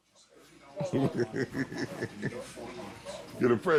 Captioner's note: laughs